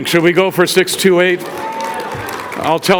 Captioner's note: audience cheers